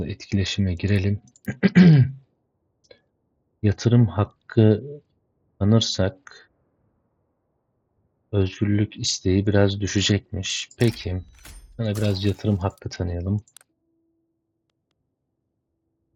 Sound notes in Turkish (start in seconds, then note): 1.4 boğazını temizler; 1.5 öksürme